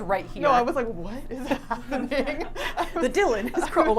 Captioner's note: laughs